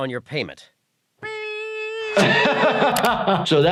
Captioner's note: laughs; Peter beeping